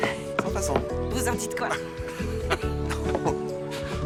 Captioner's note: laughing